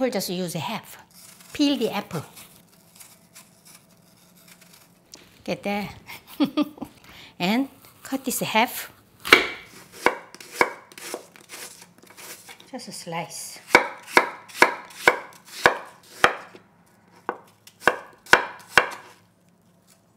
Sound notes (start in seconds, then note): 13.7 chopping loudly